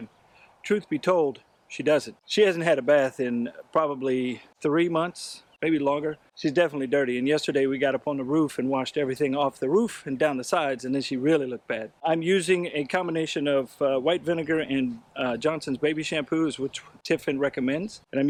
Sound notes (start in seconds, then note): none